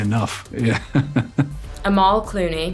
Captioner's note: laughs